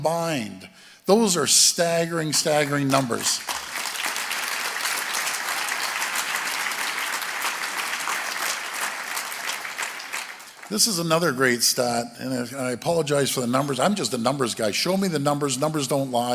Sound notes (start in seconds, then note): 5.1 applause